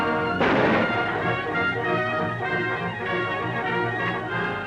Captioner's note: gunshot